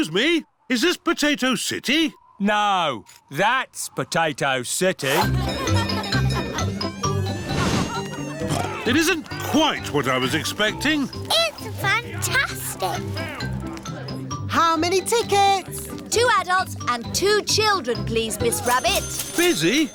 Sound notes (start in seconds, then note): 5.1 cheerful jingling; 8.9 oinks